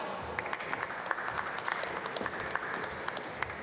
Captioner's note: applause